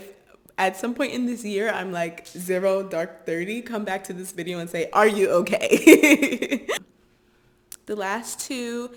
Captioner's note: laughter